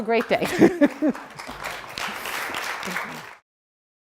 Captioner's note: applause